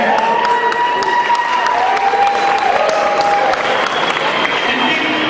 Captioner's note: cheering